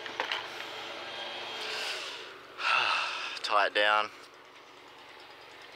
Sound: inhales* uhhhh

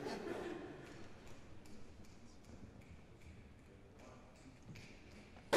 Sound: snapping

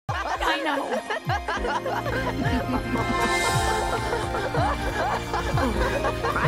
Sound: Steven and Pink Steven: *laughing; laughing; Steven and Pink Steven: *laughing

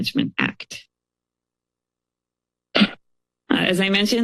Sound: pause

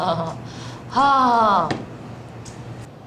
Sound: fake laugh

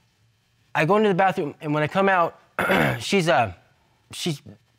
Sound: clears throat

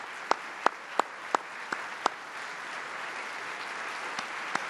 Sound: applause

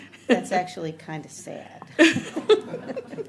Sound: laughing

